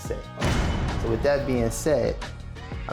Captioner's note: door slams